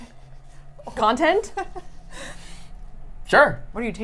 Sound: laughs

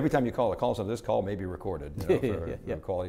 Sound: laughing

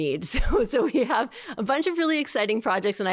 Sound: laughter

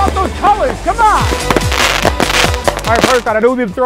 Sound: fireworks exploding

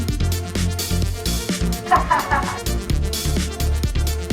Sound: laugh

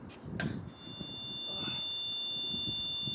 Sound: tinnitus

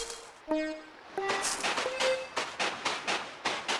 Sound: footsteps

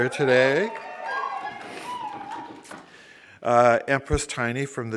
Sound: applause

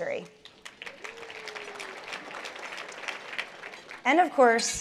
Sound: applause

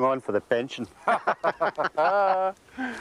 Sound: both laughing

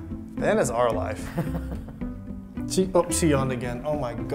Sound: chuckles

